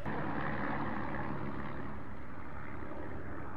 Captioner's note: planes flying